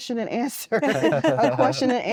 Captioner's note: laughter